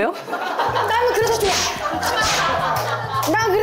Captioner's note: whip! Crack!